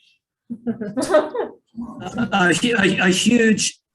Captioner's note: council members laughing